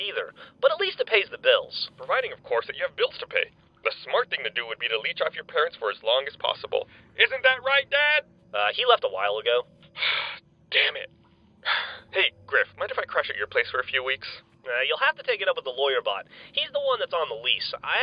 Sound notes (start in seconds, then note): 11.6 sighs